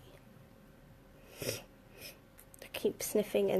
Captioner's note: sniffing